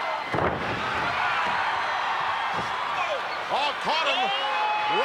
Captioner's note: ground thumping